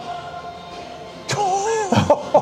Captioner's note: laughs